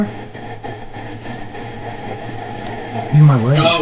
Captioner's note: radio static hissing